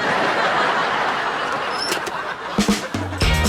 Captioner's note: audience laughs; upbeat music